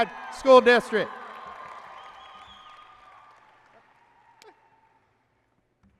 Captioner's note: applause and cheering